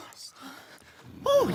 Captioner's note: soft breathing